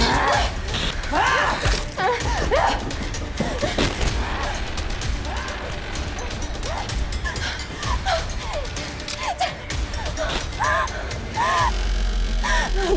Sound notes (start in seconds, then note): 0.0 creatures grunting; 0.1 tense dramatic music; 5.2 Kira breathing heavily; 6.3 tense dramatic music